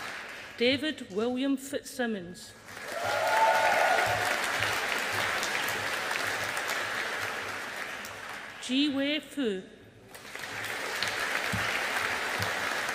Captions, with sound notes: David William Fitzsimmons. (AUDIENCE APPLAUDING) JiWei Fu. (AUDIENCE APPLAUDING)